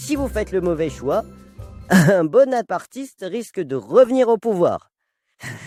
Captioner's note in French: rire